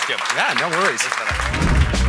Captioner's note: audience applauding